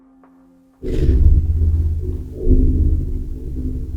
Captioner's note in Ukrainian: Вибухи